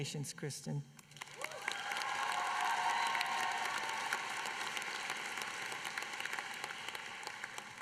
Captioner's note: applause